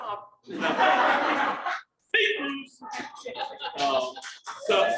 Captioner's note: crowd laughing